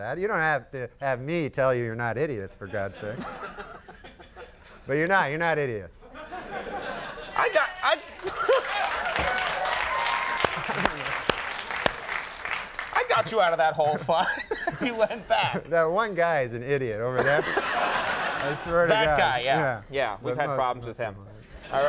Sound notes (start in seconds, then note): 2.7 Conan and Andy laughing; 2.7 audience laughing; 6.1 audience laughing; 7.0 audience cheering; 8.1 Conan clapping; 8.2 Conan laughs; 13.7 Conan laughing; 17.1 Conan laughing; 17.2 audience laughing